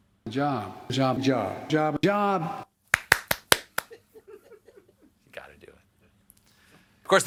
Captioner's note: applause